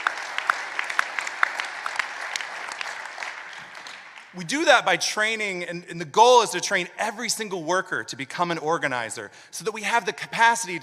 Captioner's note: applause